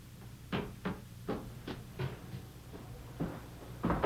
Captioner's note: footsteps clicking